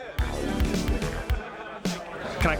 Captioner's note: laughter